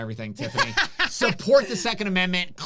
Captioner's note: laughs